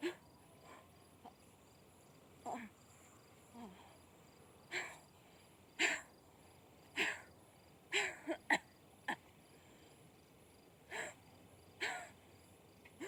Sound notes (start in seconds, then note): 3.7 Suzanne panting; 8.7 Suzanne coughing